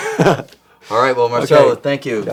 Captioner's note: chuckles